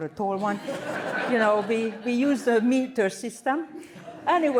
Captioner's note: laughter